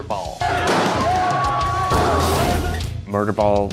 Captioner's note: crowd cheering